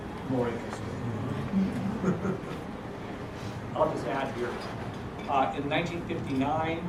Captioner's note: laugh